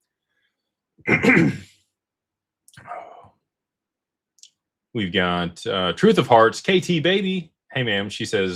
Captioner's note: clears throat